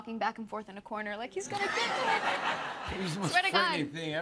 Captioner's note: laughter